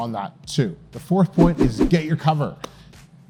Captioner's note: text whooshing